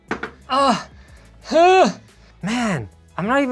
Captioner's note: grunting